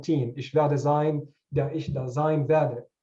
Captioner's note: speaking german